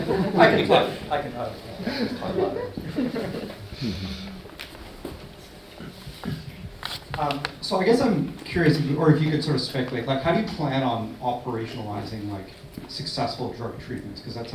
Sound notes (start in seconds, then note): 1.7 audience laughs